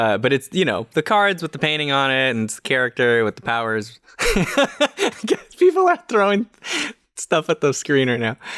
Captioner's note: chuckles